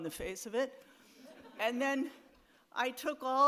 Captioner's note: audience laughs